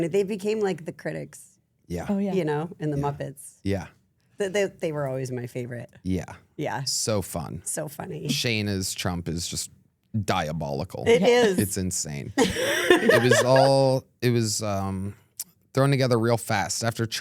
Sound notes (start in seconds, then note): 12.4 laughing